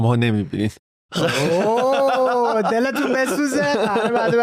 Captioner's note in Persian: خنده